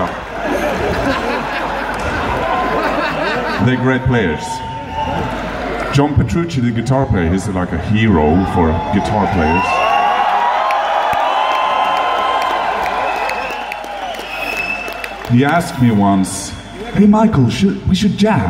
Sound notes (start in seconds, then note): 0.0 crown laughing; 9.3 crown cheering